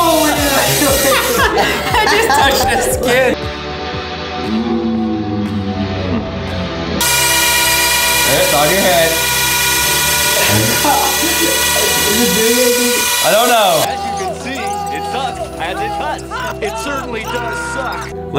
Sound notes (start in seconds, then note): 0.1 laughing; 7.0 buzzing